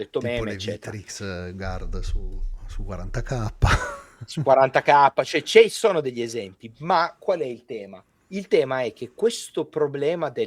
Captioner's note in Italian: risate